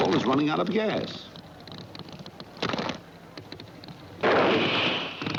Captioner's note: engine sputtering